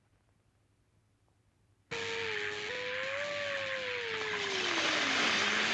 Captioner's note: whirring, Crackling